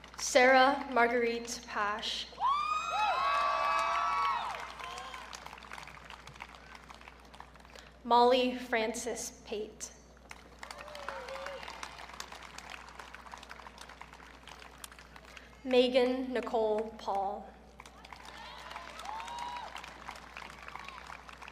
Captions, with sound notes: Sarah Marguerite Pasche. (audience cheering) Molly Frances Pate. (audience clapping) Maegan Nicole Paul. (audience cheering)